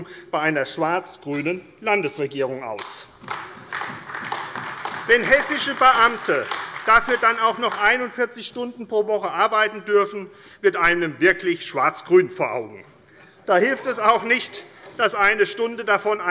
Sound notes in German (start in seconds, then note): 2.8 Beifall AfD